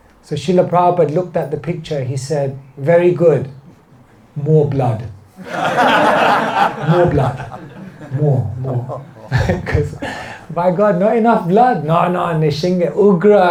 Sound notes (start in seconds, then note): 5.4 laughter